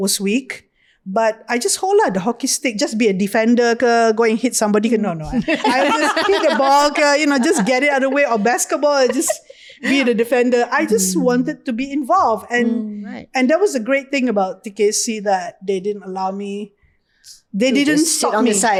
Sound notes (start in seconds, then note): 5.2 podcasters laugh